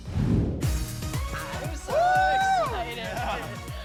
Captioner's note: cheering; all chatting